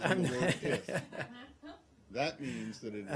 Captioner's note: laughter